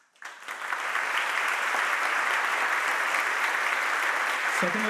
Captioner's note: audience applauding